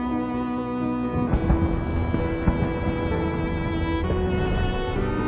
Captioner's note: explosions pounding